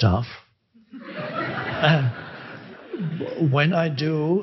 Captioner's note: crowd laughing